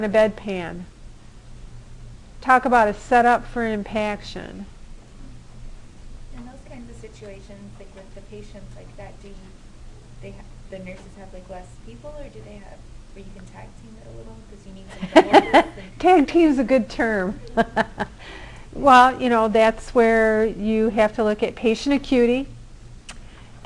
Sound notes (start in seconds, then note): 14.9 laughter